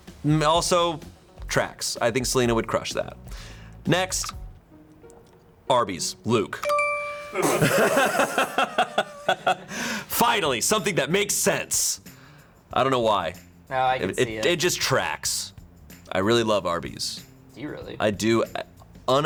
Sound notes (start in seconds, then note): 4.1 button clicks; 4.7 quirky intriguing music; 6.6 bell chimes; 7.3 all laughing